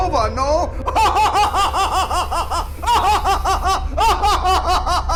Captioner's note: Captain Schmidt laughing